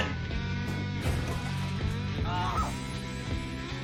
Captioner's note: car horn, tires screeching, people screaming